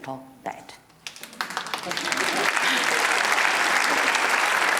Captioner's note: applause